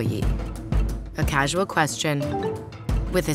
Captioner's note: messages dinging